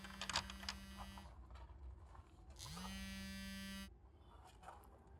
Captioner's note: mobile phone vibrating